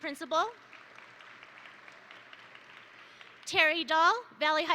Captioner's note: attendees applaud